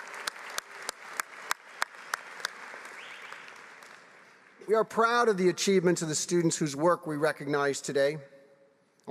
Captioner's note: applause